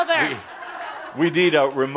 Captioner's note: more laughter